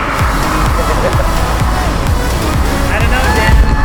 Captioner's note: chuckles